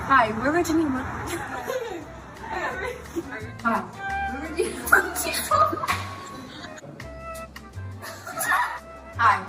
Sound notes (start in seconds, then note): 1.2 laughs; 4.6 laughing; 8.0 laughing